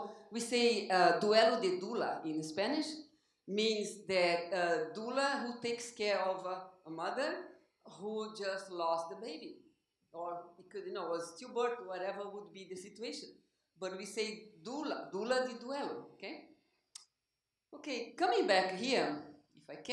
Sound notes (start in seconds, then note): 1.0 spanish; 15.3 spanish